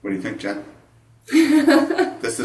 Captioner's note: laughs